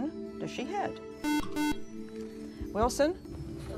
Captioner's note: beep